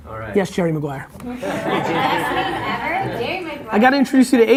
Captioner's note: laughing